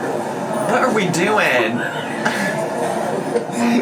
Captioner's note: laughs